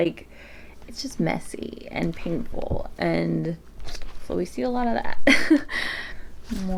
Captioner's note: laughs